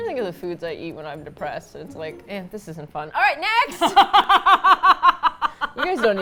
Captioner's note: laughs